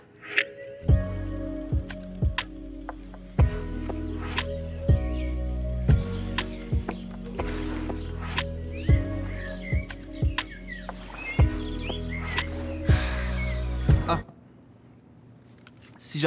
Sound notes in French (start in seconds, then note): 12.9 soupir de bien-être